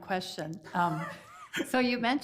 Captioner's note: committee member laughs